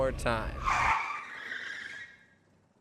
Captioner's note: tires screeching